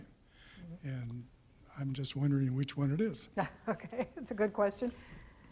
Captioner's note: chuckling